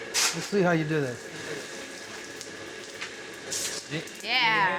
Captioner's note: coal clattering